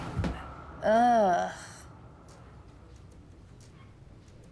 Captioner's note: Gwen groans